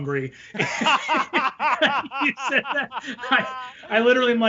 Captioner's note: laughing